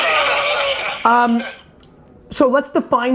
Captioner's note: laughing